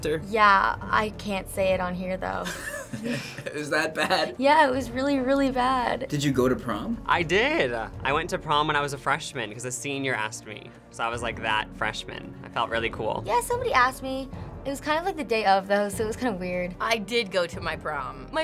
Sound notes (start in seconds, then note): 2.5 laughs